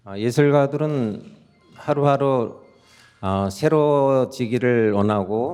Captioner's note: speaking in Korean